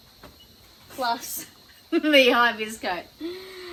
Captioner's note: laughs